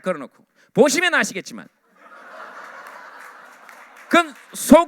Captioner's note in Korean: 웃음